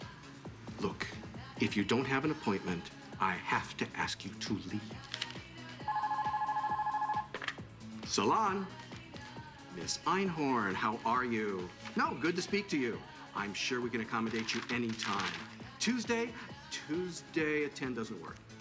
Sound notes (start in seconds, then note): 5.8 phonrie ngs